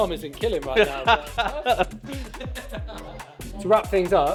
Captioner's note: laughter